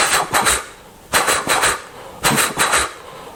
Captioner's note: train sound